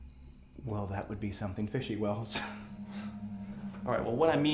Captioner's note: chuckles